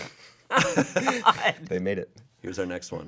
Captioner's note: laughs